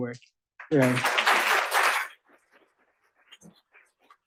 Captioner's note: applause